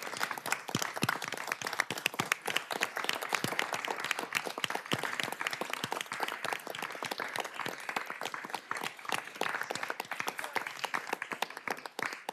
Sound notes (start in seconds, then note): 0.0 applause